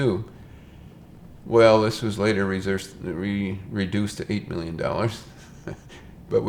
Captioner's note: chuckles